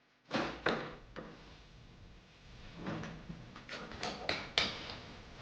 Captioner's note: door opens